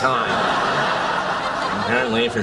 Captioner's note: laughing